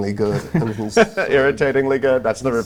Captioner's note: laughs; Pope laughs